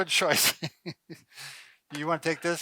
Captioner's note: chuckling